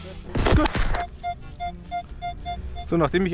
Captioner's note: squeaks